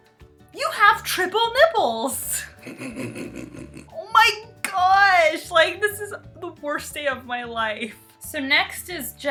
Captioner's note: snort-laughing